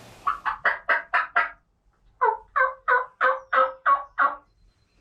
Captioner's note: fake gobbling